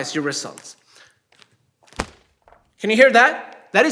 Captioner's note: snapping